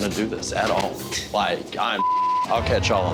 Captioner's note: beep